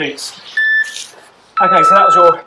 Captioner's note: beeping